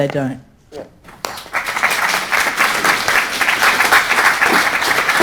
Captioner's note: audience applauding